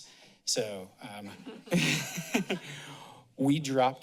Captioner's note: laughter